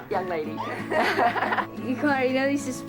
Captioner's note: laughs